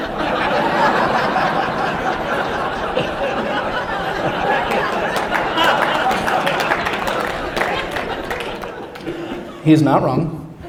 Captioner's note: laughter